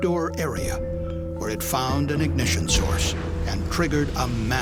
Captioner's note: sound of explosion